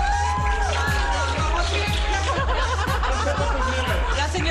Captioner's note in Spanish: aplausos